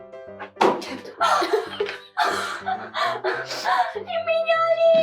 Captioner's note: painful laugh